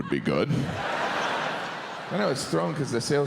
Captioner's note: audience laughs